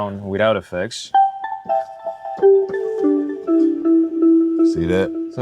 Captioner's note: tones playing